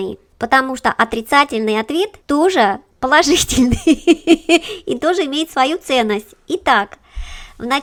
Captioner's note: laughs